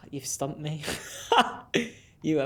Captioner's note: laughs